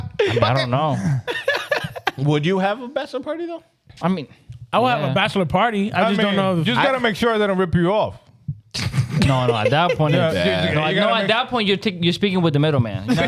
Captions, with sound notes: I don't know. (Laughing) Would you have a bachelor party though? I mean, I would have a bachelor party. I just don't know. You just gotta make sure that I rip you off. No, at that point, you're speaking with the middle man.